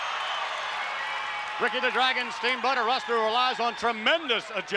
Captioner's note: applause